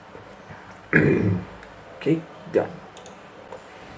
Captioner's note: clears throat